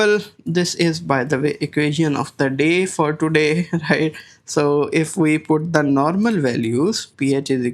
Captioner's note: chuckles